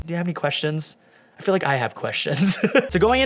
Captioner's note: laughing